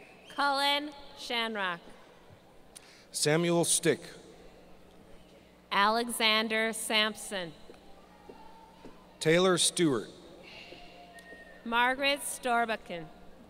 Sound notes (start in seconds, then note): none